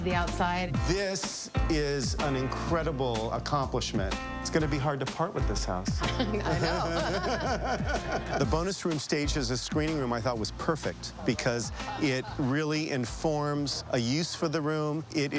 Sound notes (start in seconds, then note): 6.0 laughs